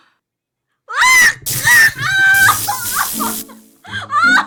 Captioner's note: an electric shock